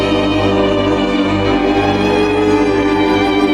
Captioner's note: people humming